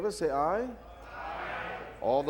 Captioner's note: crowd